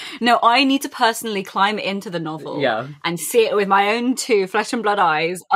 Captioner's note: laughing